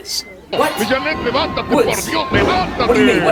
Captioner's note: speaking in foreign language on TV